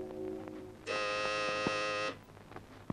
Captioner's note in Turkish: Kapı zili